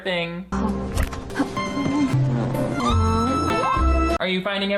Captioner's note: Emily groans